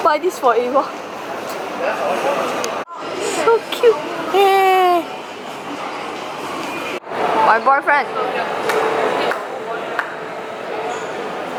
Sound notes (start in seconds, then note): 3.6 high-pitched tone